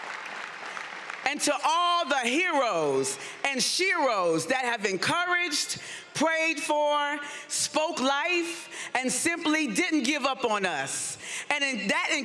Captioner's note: appuse